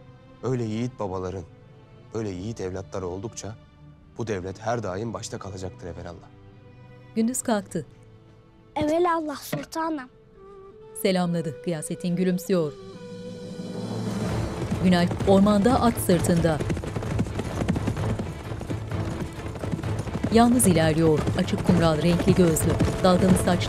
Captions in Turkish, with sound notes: Öyle yiğit babaların böyle yiğit evlatları oldukça... ...bu devlet her daim başta kalacaktır evelallah. Evelallah sultanım. (At nalı sesleri) (Müzik - Hareketli)